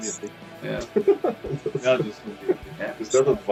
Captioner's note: Смех